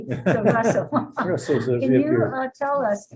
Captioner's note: laughing